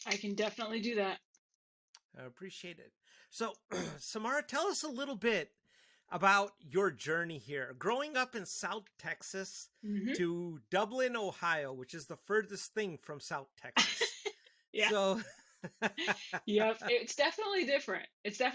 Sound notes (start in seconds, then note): 14.8 laughing; 14.8 laughs